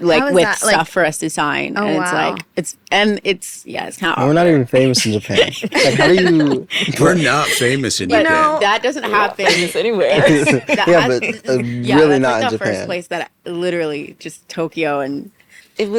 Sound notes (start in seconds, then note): 4.9 laughing; 10.1 laughs